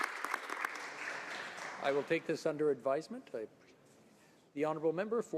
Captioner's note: some Applause